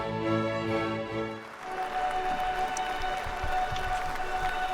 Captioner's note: audience claps